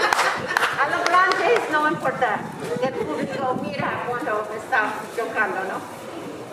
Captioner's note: audience laughs; speaking in foreign language